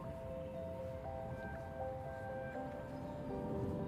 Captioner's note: wind rushing